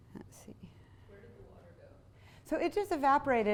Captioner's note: voiceover